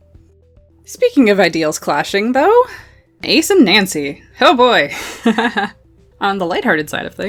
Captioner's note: laughs